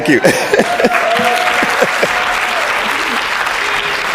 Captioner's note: audience clapping